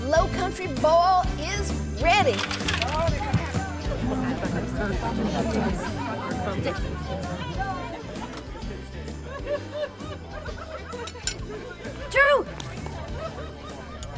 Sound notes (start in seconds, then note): 2.5 vegetables thud on table; 3.9 people chattering